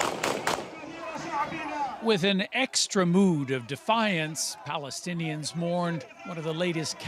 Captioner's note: shots